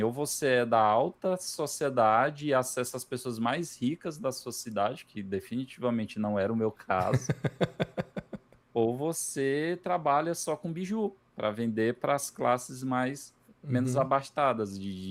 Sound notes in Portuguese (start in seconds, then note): 7.0 risadas